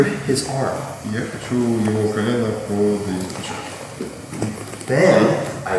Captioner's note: speaking in a foreign language